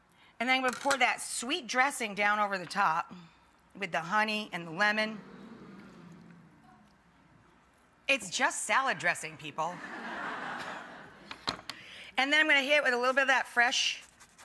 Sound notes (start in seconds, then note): 5.2 audience murmuring; 9.6 audience laughing